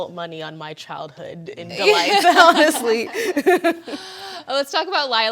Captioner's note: panelists laughing